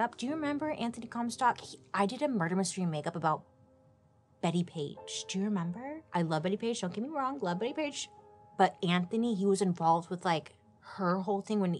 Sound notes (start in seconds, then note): none